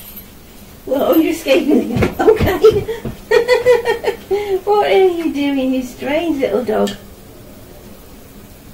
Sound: chuckles

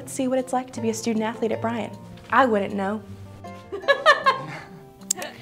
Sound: laughs

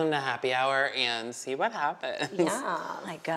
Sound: chuckles

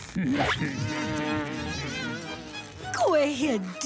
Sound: buzzing; laughing

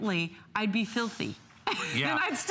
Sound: laughter

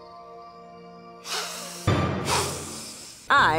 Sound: deep inhale

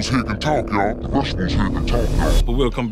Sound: pitched lower voice; pitched even lower voice

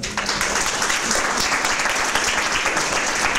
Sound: applause

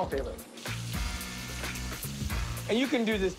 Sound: sizzling

